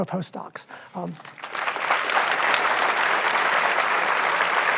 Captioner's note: audience applauds